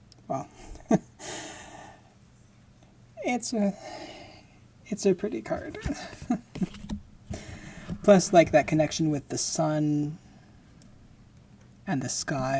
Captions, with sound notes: Well. [laughing] It's a, it's a pretty card. [laughing] Plus like, that connection with the sun and the sky